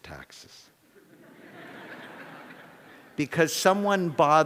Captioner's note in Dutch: Gelach